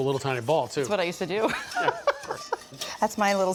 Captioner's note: laughs